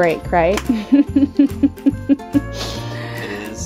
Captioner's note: laughing